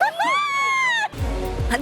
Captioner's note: laughs